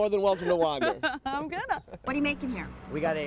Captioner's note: laughs